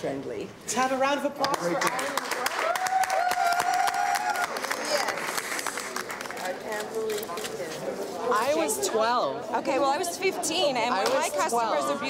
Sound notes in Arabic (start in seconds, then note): 1.8 تصفيق وهتاف